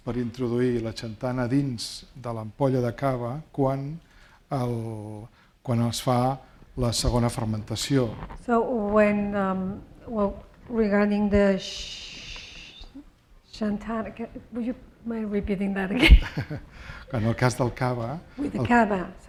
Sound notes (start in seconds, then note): 17.5 speaking spanish